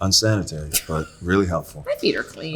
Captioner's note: Austin laughing; Zoe laughing